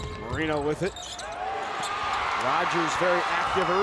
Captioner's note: crowd cheers